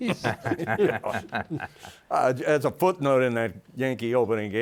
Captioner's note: all laughing